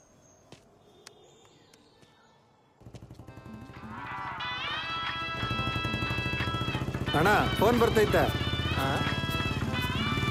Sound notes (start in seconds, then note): 3.8 mobile ringing with a son ringtone